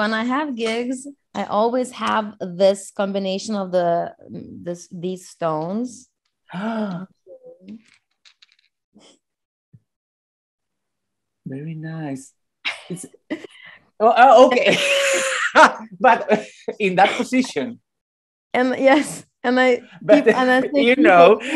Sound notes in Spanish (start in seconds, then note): 11.5 risas